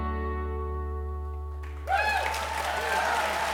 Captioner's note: applause